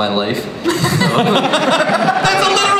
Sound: everybody laughs

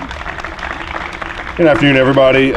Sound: applause

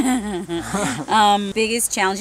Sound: laughing

